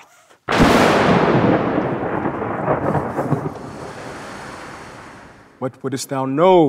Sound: thunder cracks

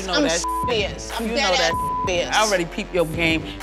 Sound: beep

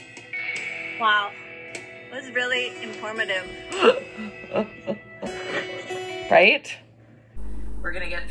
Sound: laughter

